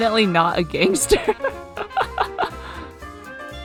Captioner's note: laughs